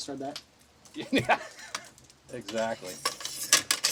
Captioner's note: laughs